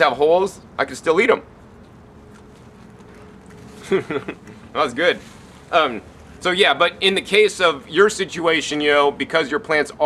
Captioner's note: chewing